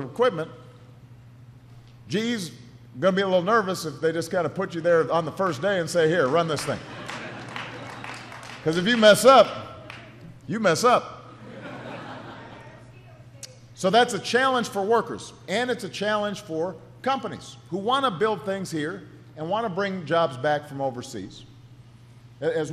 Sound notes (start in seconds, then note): 8.5 laughter